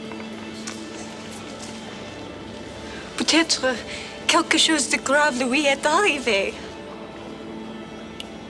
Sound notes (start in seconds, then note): 3.1 Jilly speaks French